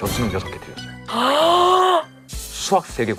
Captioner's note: gasps